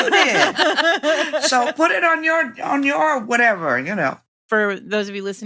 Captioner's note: laughter